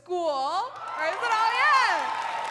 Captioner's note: crowd cheering and clapping